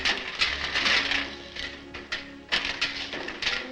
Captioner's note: chains ratchet